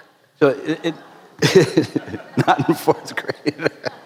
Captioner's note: more laughter